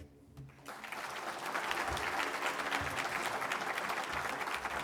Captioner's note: applause